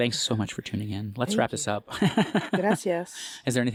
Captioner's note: laugh